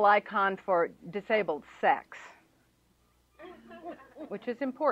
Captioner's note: laughter